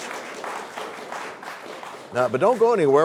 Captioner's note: applause